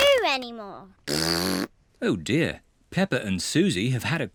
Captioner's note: snorts; blows raspberry